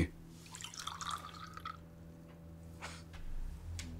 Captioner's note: liquor splashing